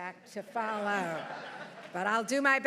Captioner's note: everyone laughing